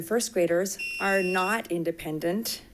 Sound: bell chiming

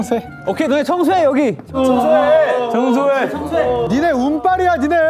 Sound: Crying TAEGUN V

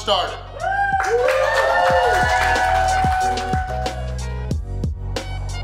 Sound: cheering & Clapping

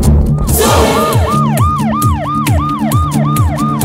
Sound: police siren wails

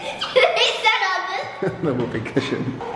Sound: laughing

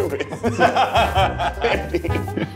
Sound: everyone laughing

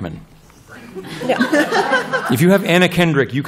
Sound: laughter

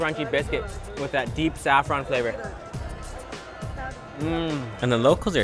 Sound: groans

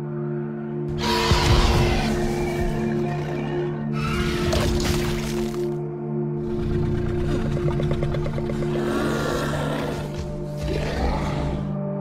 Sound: Scorpius Rex vocalizing

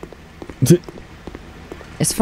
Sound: snickers

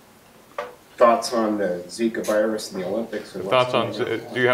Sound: voiceover

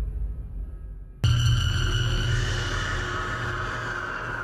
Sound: shriek reverberating

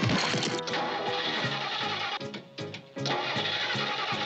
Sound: laughing and cackling; engine sputters

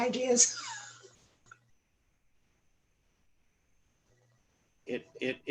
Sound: laughter

